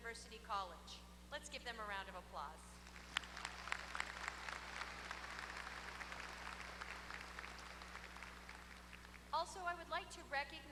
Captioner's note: applause